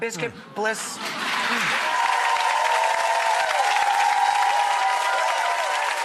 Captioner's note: audience cheering and clapping